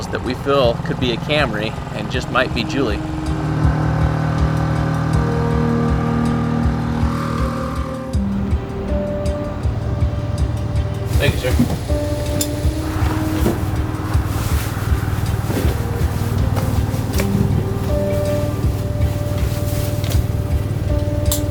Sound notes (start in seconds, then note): 4.2 engine running; 4.2 light intense music; 18.1 light intense music